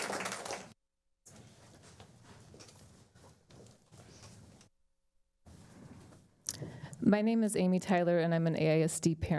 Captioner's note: applause